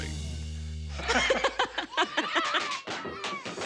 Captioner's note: both laugh